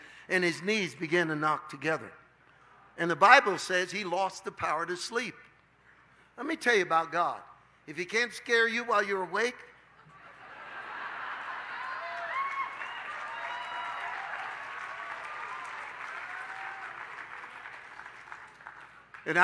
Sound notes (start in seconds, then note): 14.7 congregation laughs